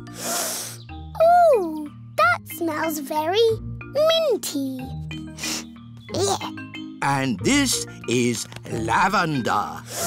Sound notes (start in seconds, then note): 0.0 sniffs; 5.3 sniffs